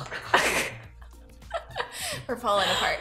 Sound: both giggling

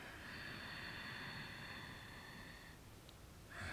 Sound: inhaling

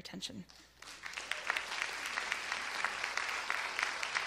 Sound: audience applause

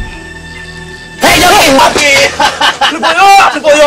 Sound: laughs

